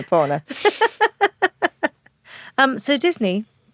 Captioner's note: laughs